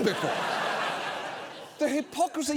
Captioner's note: studio audience laughing